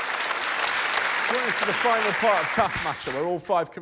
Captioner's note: applause